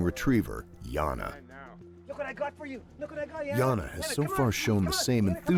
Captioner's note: voiceover